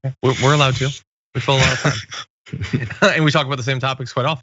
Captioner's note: laugh